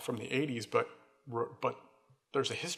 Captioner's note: none